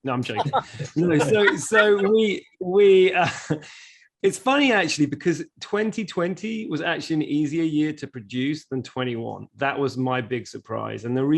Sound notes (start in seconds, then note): 0.2 chuckling